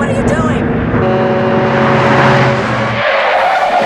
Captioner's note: truck horns